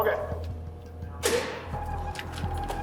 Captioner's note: door buzzing